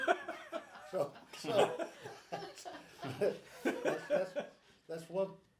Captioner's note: group laughs